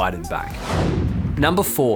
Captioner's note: air whooshing